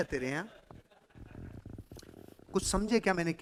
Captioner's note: chuckles